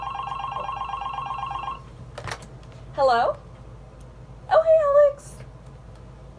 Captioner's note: phone rings